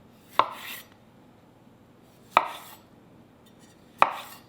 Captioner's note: knife chops